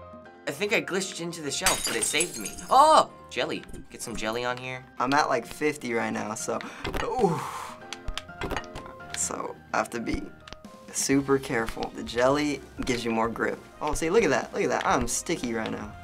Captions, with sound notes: I think I glitched into the shelf but it saved me. Oh! Jelly. Get some jelly on here. - I'm at, like, 50 right now. So-- (gasps, sighs in relief) So I have to be super careful. The jelly gives you more grip. Oh, see? Look at that. Look at that. I'm sticky right now.